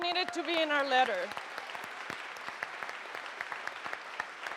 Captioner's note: audience applauds